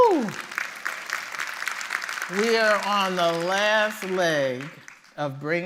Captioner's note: applause